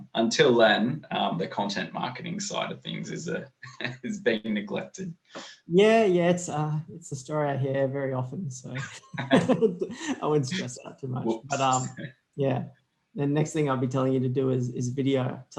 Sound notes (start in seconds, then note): 3.9 laughs; 8.7 both laughing